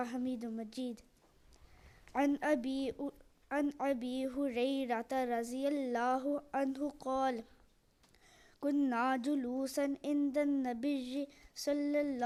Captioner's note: Arabic